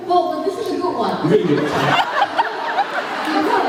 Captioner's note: laughs